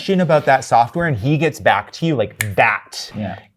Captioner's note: fingers snap